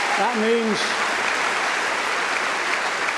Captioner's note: applause